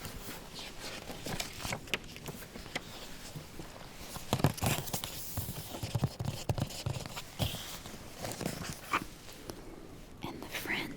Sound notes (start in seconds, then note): 0.0 flips page; 4.2 taps and soft scratching